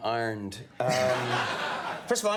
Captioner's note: laughing